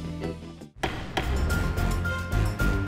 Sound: gavel clacks; upbeat music

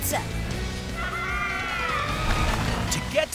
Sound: penguins squawking

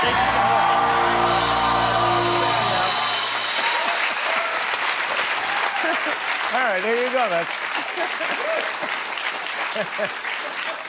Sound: cheers and applause

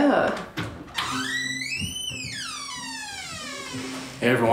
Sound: door squeaking

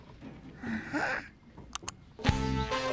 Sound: clicks mouse

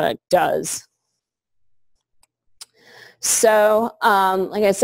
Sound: pause

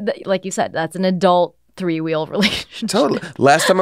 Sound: laughs

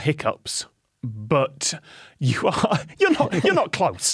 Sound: cracks up

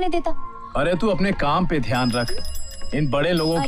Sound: cycle bell rings

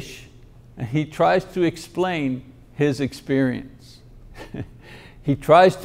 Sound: chuckles

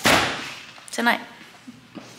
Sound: door slams

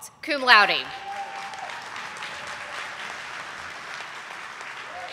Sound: audience applauding

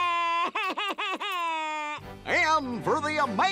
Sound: cries

